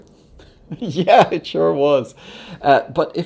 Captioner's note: laughs